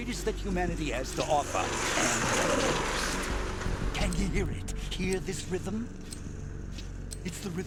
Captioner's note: none